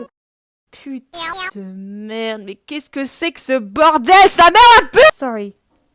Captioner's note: loses it in French